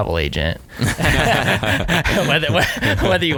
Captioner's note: laughing